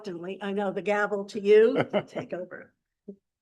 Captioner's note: laughs